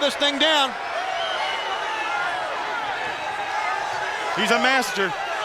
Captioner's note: crowd cheering